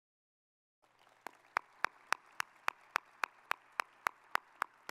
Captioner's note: audience applauding